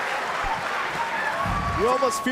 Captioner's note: cheers and applause